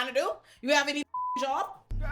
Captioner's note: beep